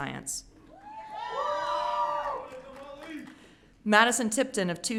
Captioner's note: audience cheering